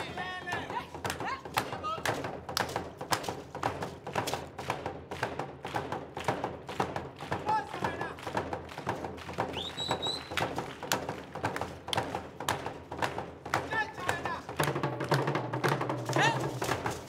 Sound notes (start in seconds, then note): 0.1 drums beating and hands clapping; 9.5 drums beating and hands clapping; 14.0 shouting in language other than English; 15.0 drums beating and hands clapping; 16.8 drums beating and beads rattling